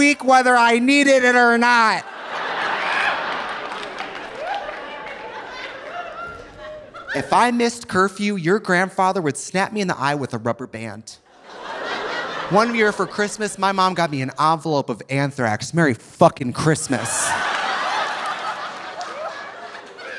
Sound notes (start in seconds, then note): 1.9 audience laughing; 2.2 audience applauding; 11.3 audience laughing; 16.8 audience laughing